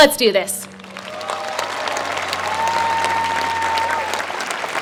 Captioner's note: applause